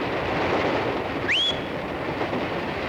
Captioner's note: driver whistles